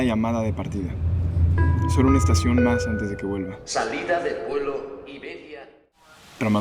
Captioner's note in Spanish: sonido de aeropuerto